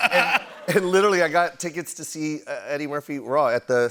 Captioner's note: laughter; normal voice